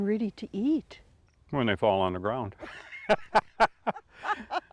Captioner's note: laughing